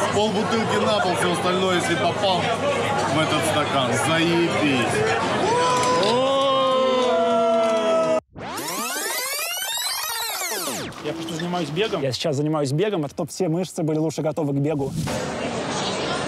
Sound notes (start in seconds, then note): 4.8 cheering; 8.3 tape rewind sound